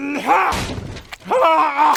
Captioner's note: splintering wood